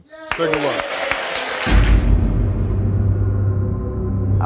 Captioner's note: crowd cheering